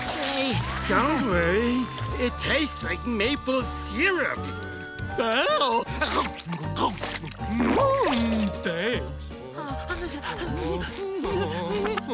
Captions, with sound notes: Don't worry, it tastes like maple syrup. [chomping] Thanks.